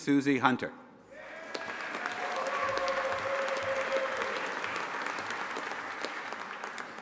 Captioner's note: audience applauding and cheering